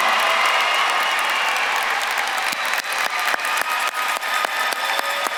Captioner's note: audience claps and cheers